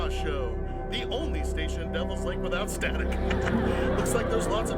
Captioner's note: laughs